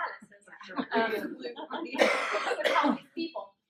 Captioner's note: audience murmurs and laughs